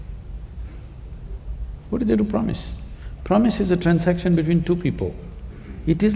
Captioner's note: none